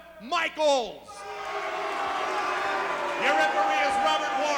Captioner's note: audience booing